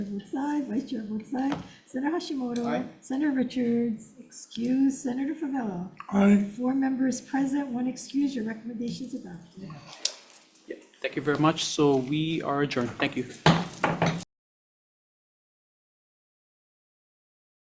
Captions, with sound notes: Chair votes aye, Vice Chair votes aye, Senator Hashimoto? - Aye. - Senator Richards excused, Senator Fevella? - Aye. - Four members present, one excused, your recommendation's adopted. - Thank you very much, so we are adjourned, thank you. (gavel bangs)